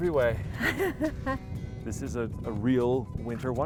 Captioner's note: laughing